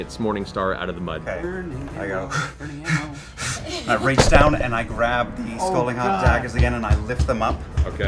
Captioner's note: pants